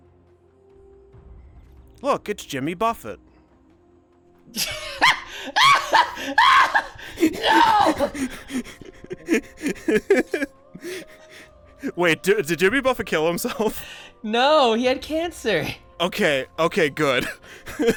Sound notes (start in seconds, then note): 4.5 laughing in shock; 7.8 laughing